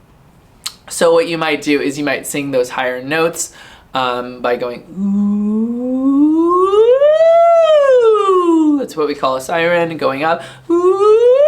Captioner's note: singing a siren-- demonstrates